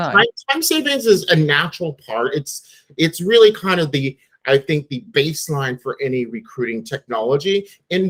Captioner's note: none